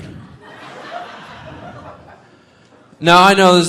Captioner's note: audience laughing